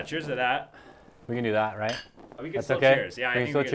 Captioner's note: bottles clink